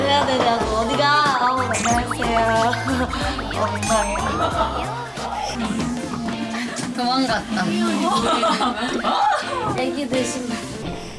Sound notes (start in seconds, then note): 7.5 laugh